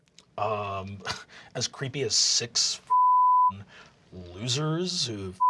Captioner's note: laughs; deep voice